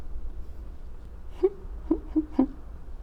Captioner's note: giggles